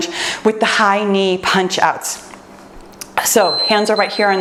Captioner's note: timer beeps